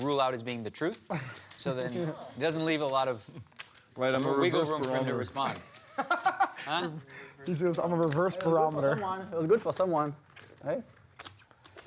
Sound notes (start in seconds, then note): 5.5 laughing